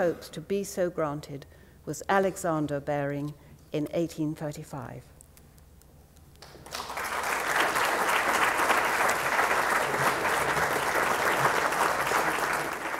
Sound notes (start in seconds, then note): 6.4 applause